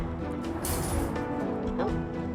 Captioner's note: trap door snaps